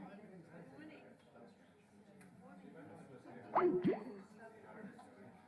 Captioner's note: voiceover